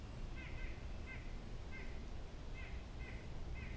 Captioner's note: birds chirping